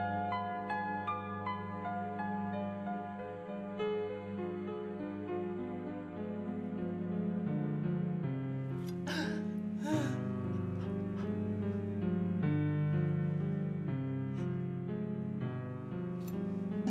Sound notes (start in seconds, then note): 9.7 groaning